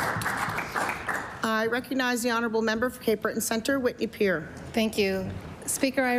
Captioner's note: applause